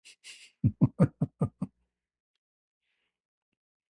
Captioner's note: ketawa